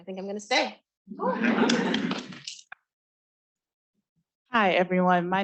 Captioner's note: students laughing